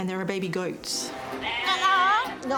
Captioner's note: goat bleats